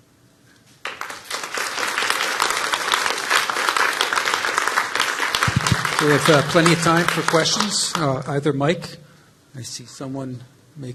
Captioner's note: applause